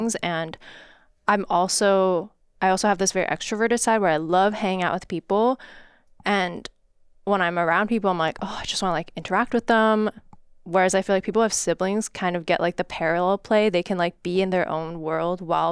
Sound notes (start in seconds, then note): none